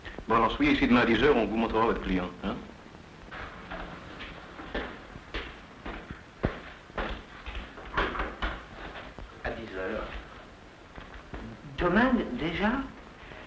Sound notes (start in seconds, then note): 3.2 footsteps; 7.9 door opening